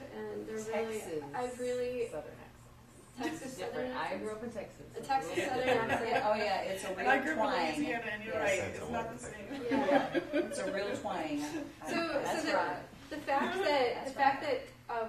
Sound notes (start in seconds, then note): 9.6 laughter